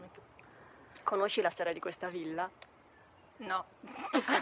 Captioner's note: both laugh